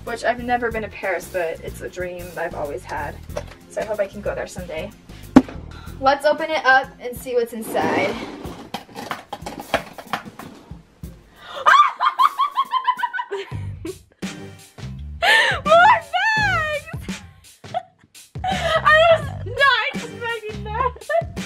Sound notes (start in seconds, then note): 11.5 laughter